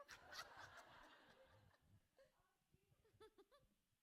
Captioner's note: everyone laughing